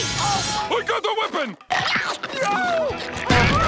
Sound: crunching

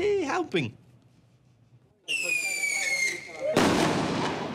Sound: fireworks screeching; loud explosion

